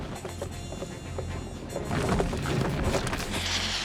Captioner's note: thudding; hissing